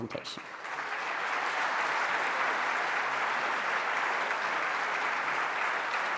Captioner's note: applause